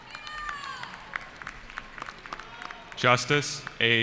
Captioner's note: cheering